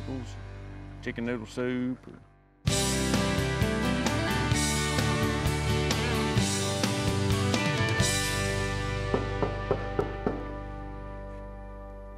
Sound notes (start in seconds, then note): 9.1 knock on the door